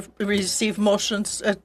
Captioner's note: speaking French